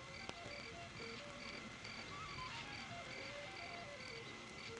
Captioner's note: crickets chirping